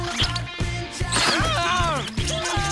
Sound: laughing; screaming

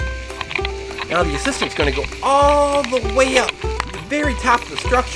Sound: voiceover

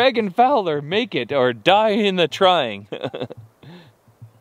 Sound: laughs

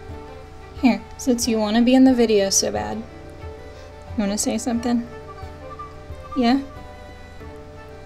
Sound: soft beep

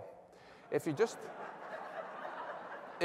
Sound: laughter

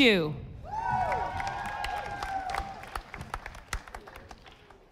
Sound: audience applauding

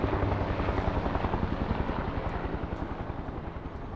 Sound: helicopter whirls

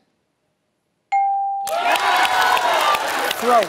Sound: applause

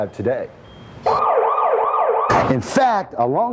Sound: siren wailing

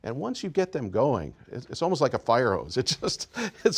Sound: laughs happily

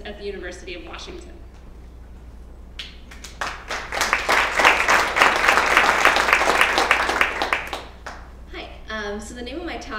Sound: applause

